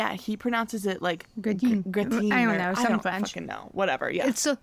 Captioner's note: french accent